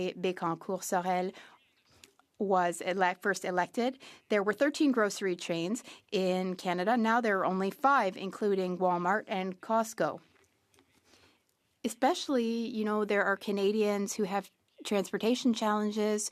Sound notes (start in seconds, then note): 3.6 speaking French